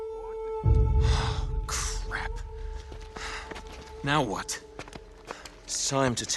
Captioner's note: sigh